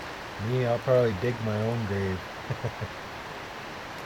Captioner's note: laughter